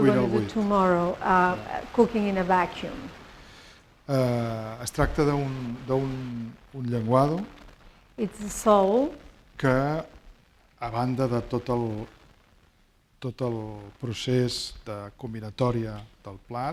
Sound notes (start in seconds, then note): 6.1 speaking spanish; 9.8 speaking spanish